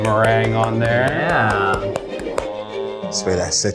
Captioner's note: clapping hands